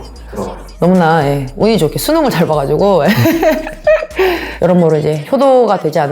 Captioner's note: laugh